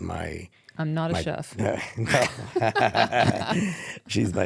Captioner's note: laughing